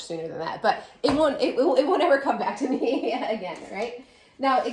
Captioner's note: laughing